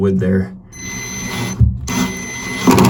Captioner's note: engine revving